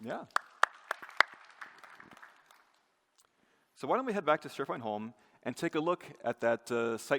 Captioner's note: applause